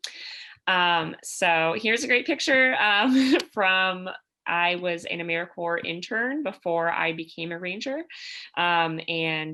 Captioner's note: laughter